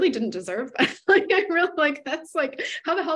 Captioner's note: laughs